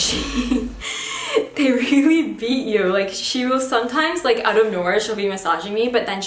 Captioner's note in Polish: Śmiech